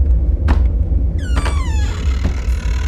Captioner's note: wooden step noises; creaky door opening